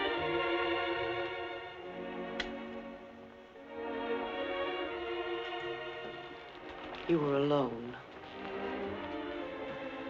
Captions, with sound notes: (switch clicking) (dramatic music continues) You were alone.